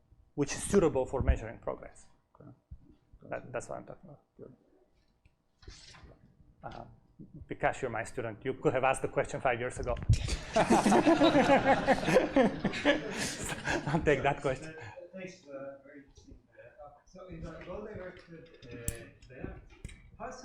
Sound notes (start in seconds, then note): 10.3 laughter